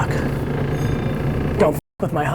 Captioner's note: bell rings